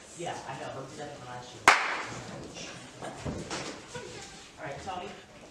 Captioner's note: he claps